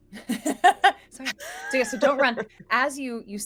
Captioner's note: laughs